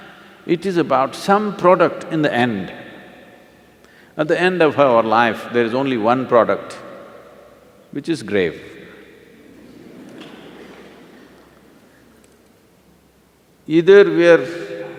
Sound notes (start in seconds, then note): 9.5 laughter